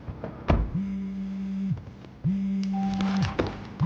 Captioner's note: cell phone buzzing